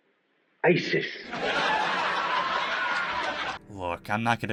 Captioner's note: Seinfield Laugh Track